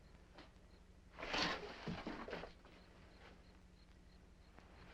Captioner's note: insects chirping